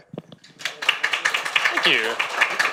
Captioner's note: audience applauds